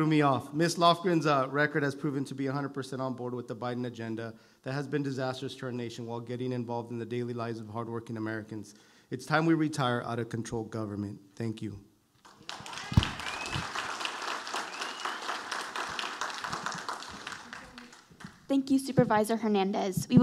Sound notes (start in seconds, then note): 12.2 audience applauding